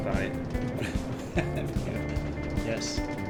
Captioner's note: laughs